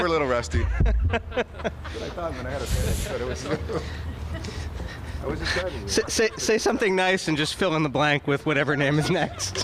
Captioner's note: laughter